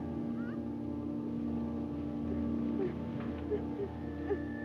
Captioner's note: Bonnie whimpering